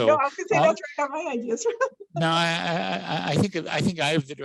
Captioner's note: laughs